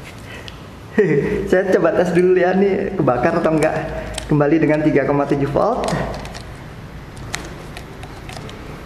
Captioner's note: chuckle